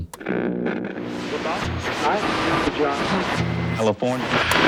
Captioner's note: radio whirring